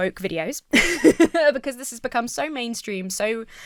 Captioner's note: laughs